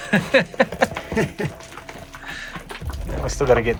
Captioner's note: laughing